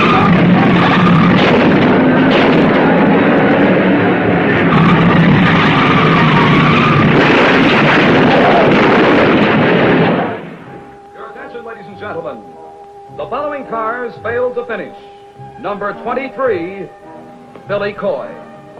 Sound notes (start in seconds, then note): 0.1 tires squealing; 1.6 cars crashing; 5.2 tires squealing; 7.7 cars crashing